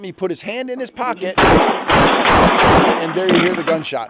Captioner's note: gunshots firing